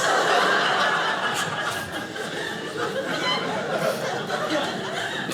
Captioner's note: audience laughing